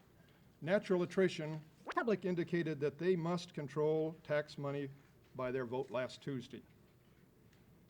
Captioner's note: camera noise